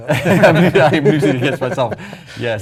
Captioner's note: laugh